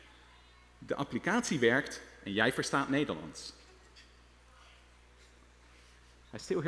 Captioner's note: speaking dutch